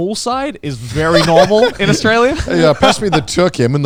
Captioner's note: laughs